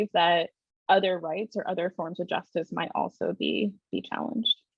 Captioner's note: none